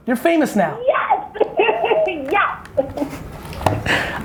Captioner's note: laughs